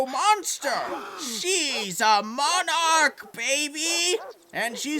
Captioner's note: crowd gasps